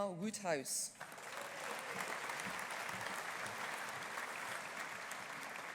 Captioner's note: audience applauding